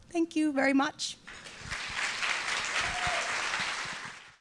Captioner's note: applause